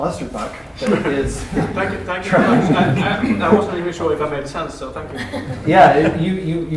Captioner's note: laughter; laughter